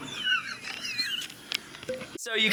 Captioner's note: laughing